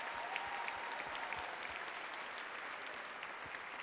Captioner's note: applause, cheers